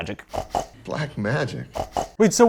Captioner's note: snort snort